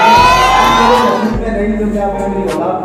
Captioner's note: crowd wildin